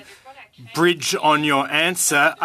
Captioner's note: speaking French